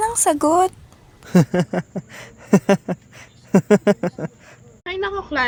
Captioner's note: laughs